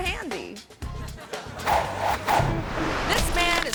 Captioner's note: audience laughing; air whooshing